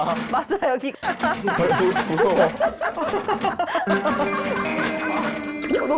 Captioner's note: clinking metal SFX; caught in a laughing fit